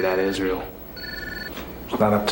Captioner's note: phone rings